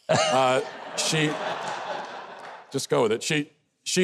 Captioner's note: audience chuckling